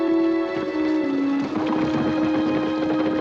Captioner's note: horses galloping